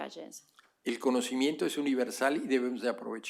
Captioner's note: spanish